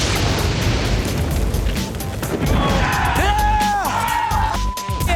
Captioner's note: cheers and applause